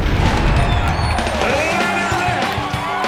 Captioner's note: cheering